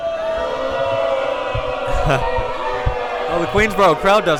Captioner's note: crowd booing